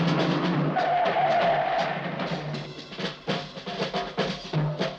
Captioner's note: tires screeching